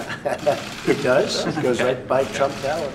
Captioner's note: laughs